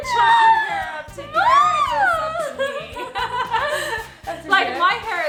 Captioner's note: laughs